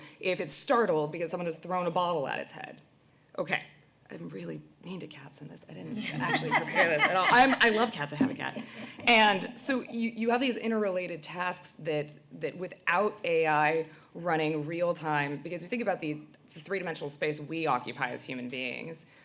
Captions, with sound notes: if it's startled because someone has thrown a bottle at its head. Okay, I'm really mean to cats in this, I didn't actually prepare this at all [laughter]. I love cats, I have a cat. And so you have these interrelated tasks that without AI running real-time, because if you think about the 3-dimensional we occupy as human beings,